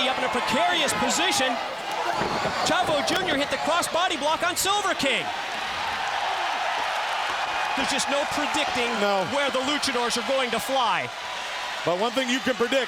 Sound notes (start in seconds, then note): 6.9 crowd cheering